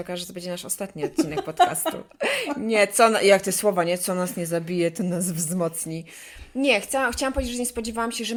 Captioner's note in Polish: śmiech